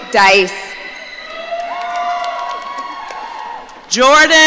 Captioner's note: audience cheering